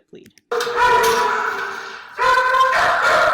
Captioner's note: dog barks